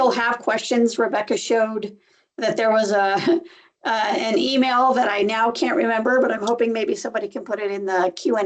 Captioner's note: laughs